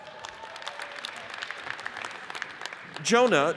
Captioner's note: audience cheers and applauds